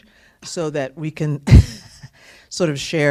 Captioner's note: laughter